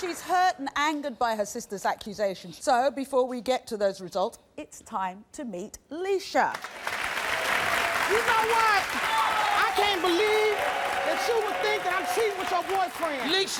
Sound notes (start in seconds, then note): 6.6 audience applauding and cheering